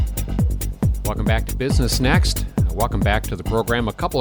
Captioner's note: voiceover